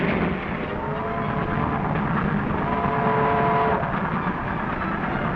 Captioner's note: train whistle blowing